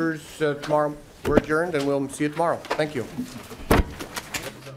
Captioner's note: gavel